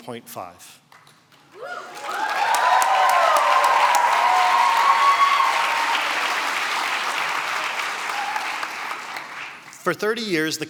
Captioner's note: cheering and applause